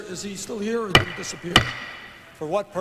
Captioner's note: gavel bangs